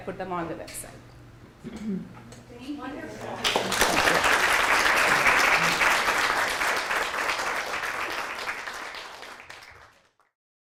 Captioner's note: applause